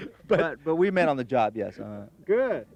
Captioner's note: laughing